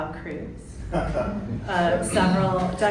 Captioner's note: chuckling